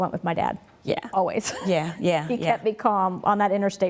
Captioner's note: laughs